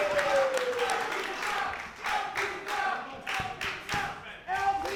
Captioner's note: crowd